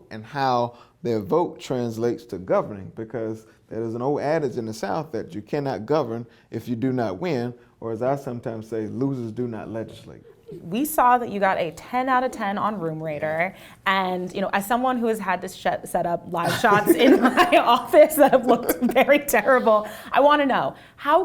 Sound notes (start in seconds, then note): 10.3 laughs; 16.4 laughs